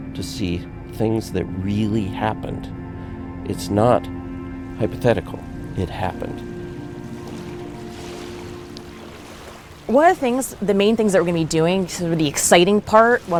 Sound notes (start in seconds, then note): 7.6 water lapping